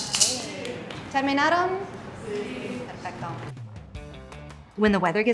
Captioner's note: rattle rattling; speaks in Spanish